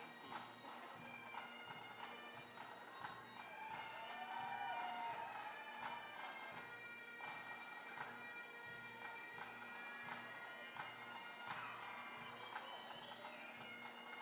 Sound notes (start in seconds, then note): 3.2 bagpipe music; 3.2 intermittent cheering